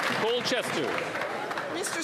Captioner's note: applause